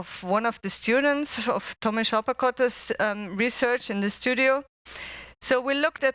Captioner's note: non-english speech